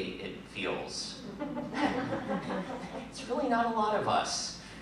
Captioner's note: laughter